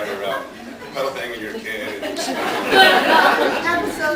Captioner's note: laughs